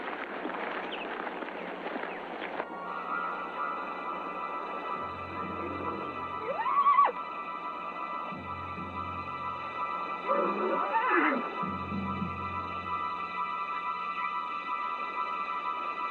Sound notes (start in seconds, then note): 2.9 suspenseful music; 6.5 horse neighs